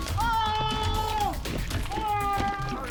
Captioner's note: suspect screaming